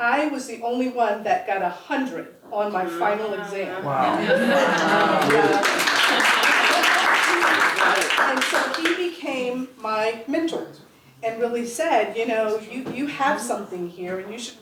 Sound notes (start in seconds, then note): 4.7 applause